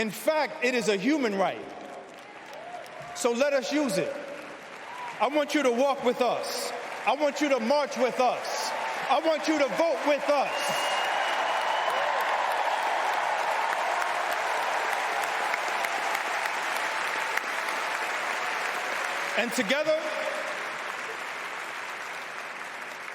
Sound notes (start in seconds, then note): 0.0 applause; 11.5 cheers and applause; 18.6 cheers and applause